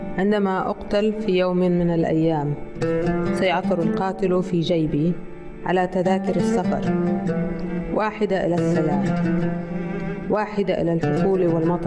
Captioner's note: reading in Arabic